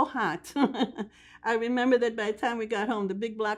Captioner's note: laughing